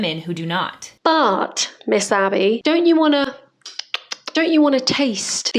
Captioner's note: tasting noises